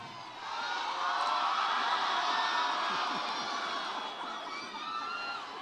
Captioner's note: audience cheers